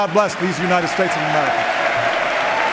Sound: applause

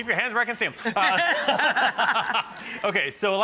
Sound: laughing

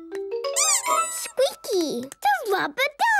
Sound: squeaks

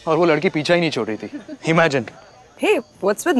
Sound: Vandy laughs

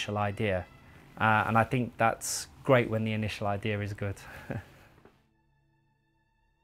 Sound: laughter

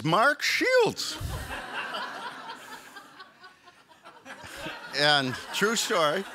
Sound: audience laughs

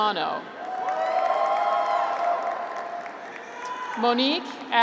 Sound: graduates cheer

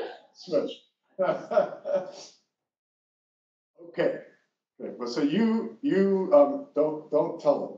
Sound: laugh

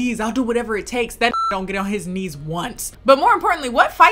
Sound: beep

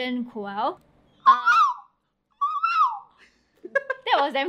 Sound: mimicking a Koel's call

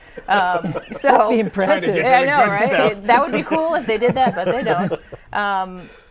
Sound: laughing

